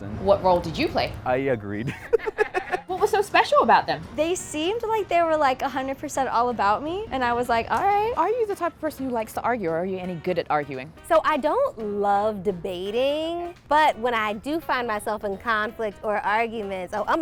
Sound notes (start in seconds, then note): 1.8 laughter